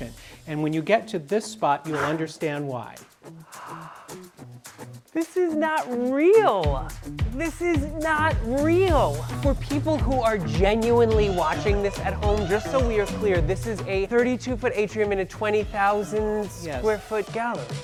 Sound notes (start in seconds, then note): 3.3 gasps